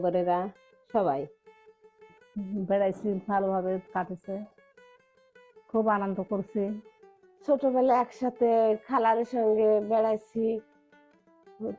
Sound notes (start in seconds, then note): 0.0 speaking bengali